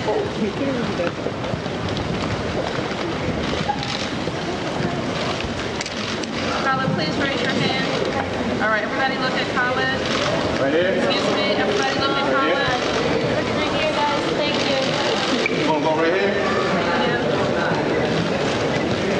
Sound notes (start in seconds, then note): 3.9 applause